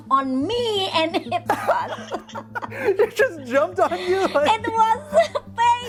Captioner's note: laughing